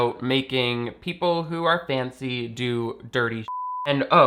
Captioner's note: beep